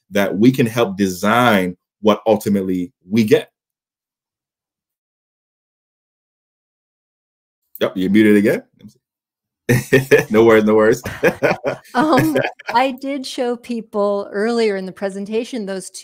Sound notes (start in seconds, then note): 10.8 laughs